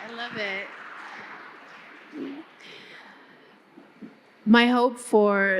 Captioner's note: audience clapping